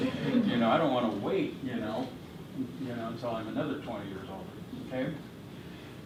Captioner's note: chuckle